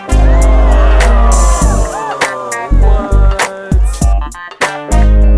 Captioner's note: cheering and clapping